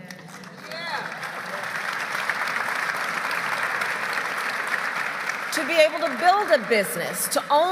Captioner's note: applause